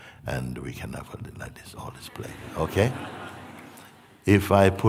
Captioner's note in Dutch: gelach